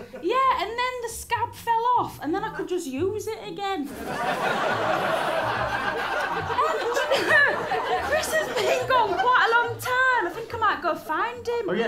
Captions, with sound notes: Yeah and then the scab fell off and then I could just use it again. (LAUGHTER) Chris has been gone quite a long time, I think I might go find him.